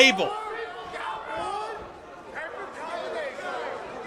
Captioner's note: crowd yells